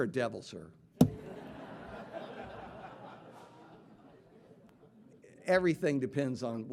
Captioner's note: audience laughing